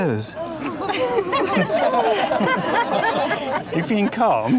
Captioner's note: crowd laughs